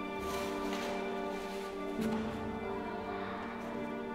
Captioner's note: bags rustling